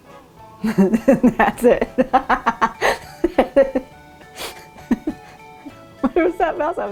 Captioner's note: laughing